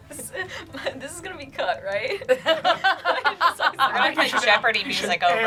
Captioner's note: laughs